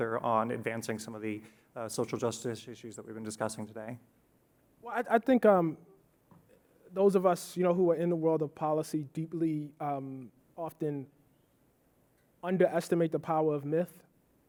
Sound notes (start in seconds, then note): none